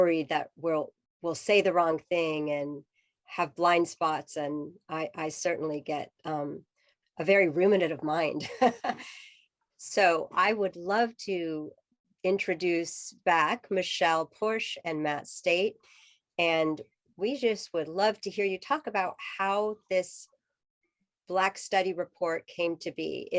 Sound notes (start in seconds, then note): 8.4 laughter